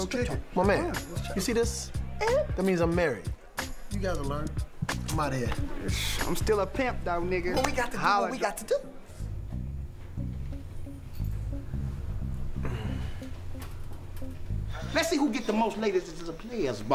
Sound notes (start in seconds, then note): 12.3 groaning lightly